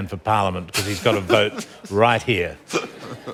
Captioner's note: laughter